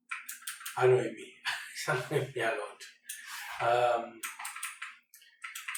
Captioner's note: laugther